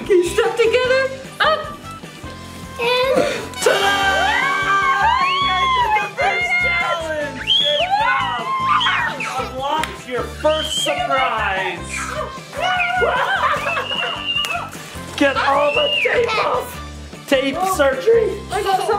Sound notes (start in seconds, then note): 13.0 dad laughs